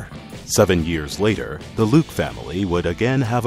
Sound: voiceover

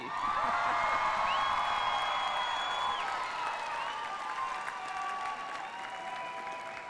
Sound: cheers and applause

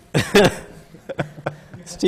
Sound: laughter

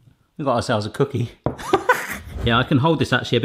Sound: chuckles

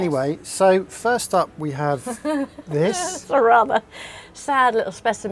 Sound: laughs

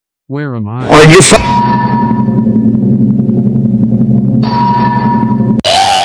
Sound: hammering

